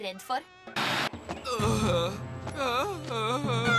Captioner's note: moaning